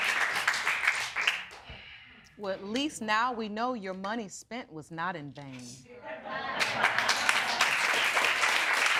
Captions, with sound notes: Well, at least now we know your money spent was not in vain. (AUDIENCE APPLAUDING)